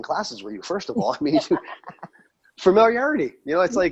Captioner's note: laughs